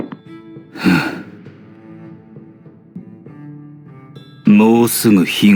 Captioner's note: sigh